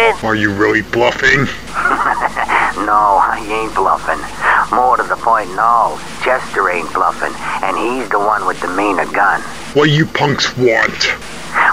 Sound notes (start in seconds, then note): 1.6 chuckles evily